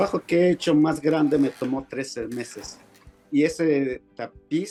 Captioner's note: speaking Spanish